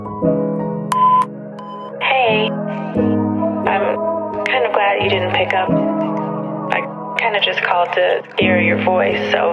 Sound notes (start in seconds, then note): 1.5 phone beeps